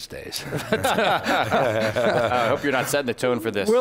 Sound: laughing

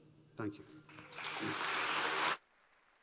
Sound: applause

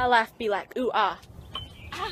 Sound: light metal smack

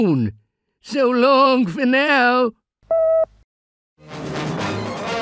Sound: tone beeping; triumphant music

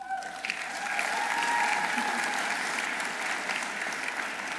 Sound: audience applauding

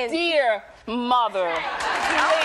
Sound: applause

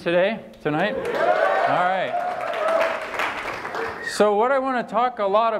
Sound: applause

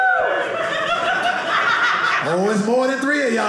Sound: audience laughing

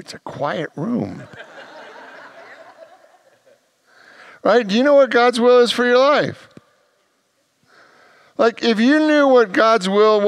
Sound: congregation laughs

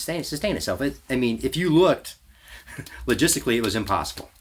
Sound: laughs

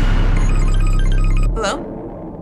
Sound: phone ringing

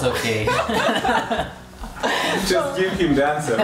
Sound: both laughing

